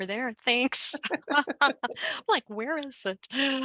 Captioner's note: laughter